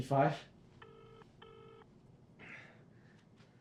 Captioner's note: phone rings